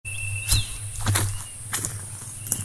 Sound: footsteps

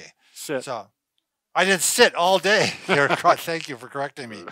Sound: laughs

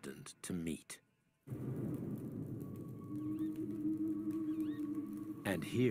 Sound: wind blowing

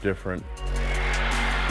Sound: crowd roaring

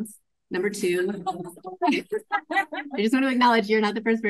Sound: laughs

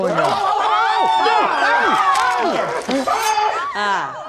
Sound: screaming

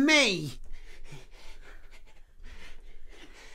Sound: gasping

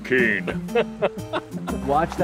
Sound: laughter

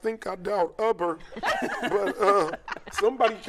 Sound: laughter

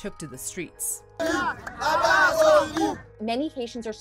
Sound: protesters chanting

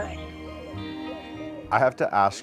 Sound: dove cooing

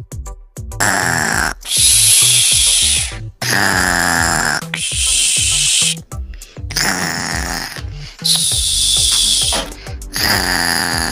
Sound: snoring sound

